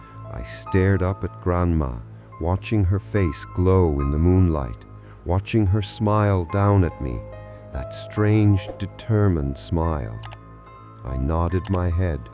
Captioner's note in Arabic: وقفة، شهيق بطيء